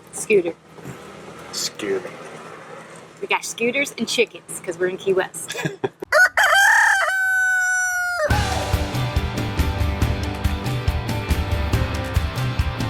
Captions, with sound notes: scooter! - Scooter! - We got scooters and chickens 'cause we're in Key West. (laughing) (rooster crowing) (upbeat music)